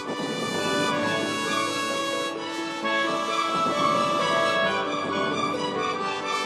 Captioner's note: heavy artillery booming; bright majestic music